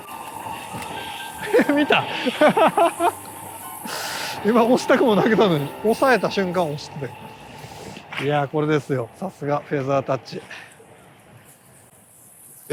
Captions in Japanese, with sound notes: [笑い]みた！？ "RTSのフェザータッチ" いやーこれですよ。さすがフェザータッチ。